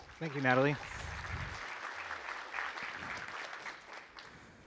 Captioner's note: applause